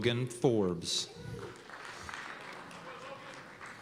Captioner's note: applause